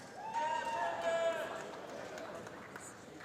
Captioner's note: applause